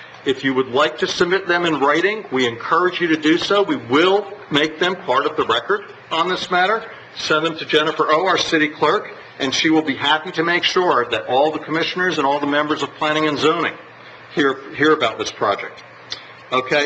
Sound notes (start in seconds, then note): none